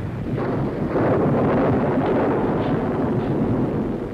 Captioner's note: thunderstorm